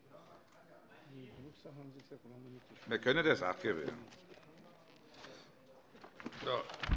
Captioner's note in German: none